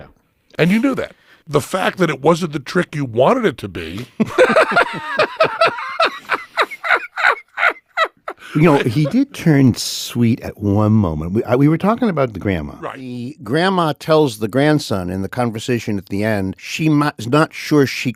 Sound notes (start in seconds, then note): 3.9 laughs